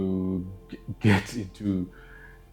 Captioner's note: laughing